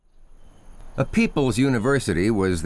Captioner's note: nature sounds